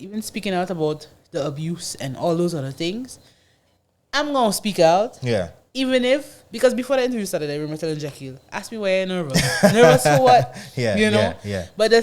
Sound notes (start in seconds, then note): 9.3 laughs